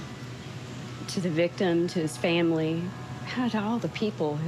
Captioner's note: none